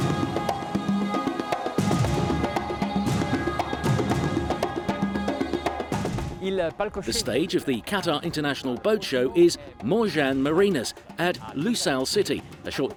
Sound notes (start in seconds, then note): 0.1 upbeat world music; 6.6 speaks in foreign language